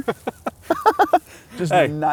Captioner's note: laughs